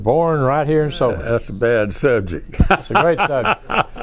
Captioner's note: laughs